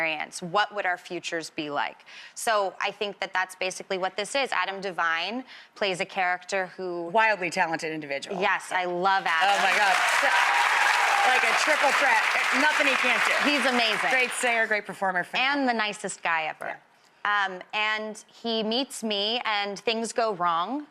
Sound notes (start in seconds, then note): 9.3 crowd cheering